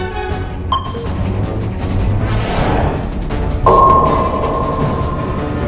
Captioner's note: sonar pings